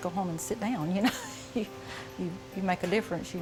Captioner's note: chuckling